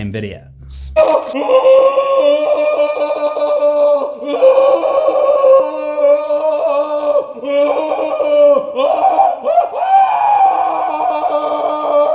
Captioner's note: screams of agony